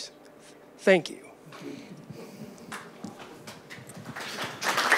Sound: audience applauds

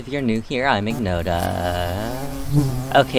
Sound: buzzing

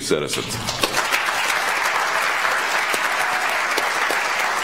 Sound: audience applauds

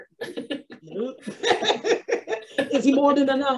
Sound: both laughs

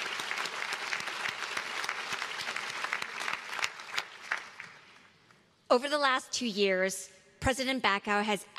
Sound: applause

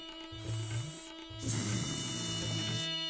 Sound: hissing

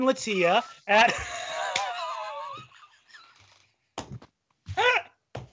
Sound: laughing

